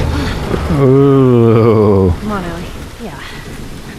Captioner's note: ohh